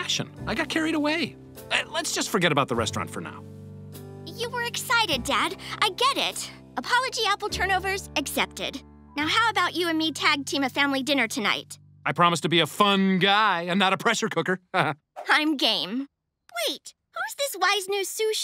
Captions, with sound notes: I got carried away. Let's just forget about the restaurant for now. You were excited Dad, I get it. Apology apple turnovers accepted. Now how about you and me tag-team a family dinner tonight? I promise to be a fun guy, and not a pressure cooker. - [chuckles] - I'm game. Wait, who's this wise, new sous chef